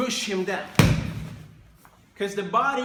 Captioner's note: body thumps